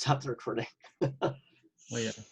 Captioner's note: laughs